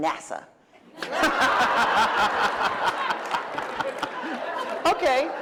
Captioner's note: laughter